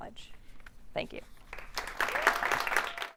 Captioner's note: applause